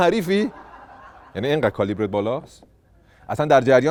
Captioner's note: laughter